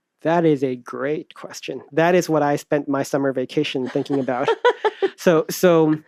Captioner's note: laughs